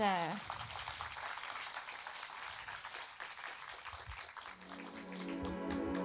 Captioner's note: applauds; music starts